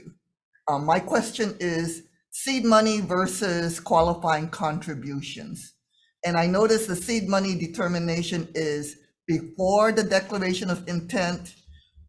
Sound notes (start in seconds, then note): none